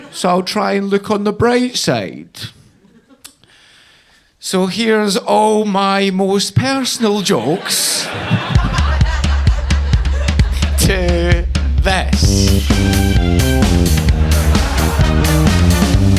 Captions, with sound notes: so I'll try and look on the bright side." So here's all my most personal jokes. (audience laughing) To this. (rhythmic music)